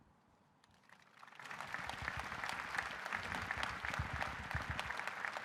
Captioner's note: audience applauding